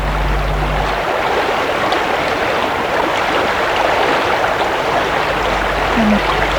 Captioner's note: running water